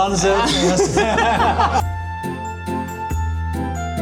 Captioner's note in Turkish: kahkaha